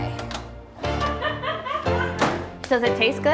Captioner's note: laughing